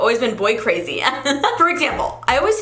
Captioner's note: giggles